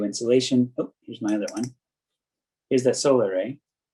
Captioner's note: mouse clicking